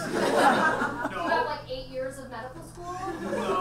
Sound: audience laughs

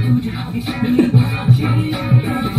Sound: giggle

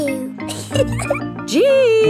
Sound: snorts; giggles

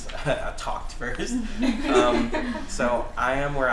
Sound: laughter

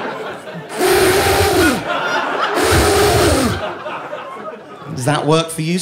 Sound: blows raspberry

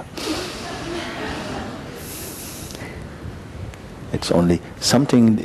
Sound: laughter

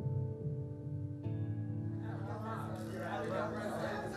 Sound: indistinct chatter

